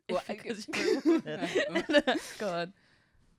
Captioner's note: chuckles